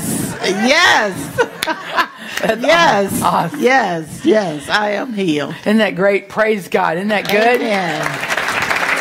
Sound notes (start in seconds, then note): 0.2 laughs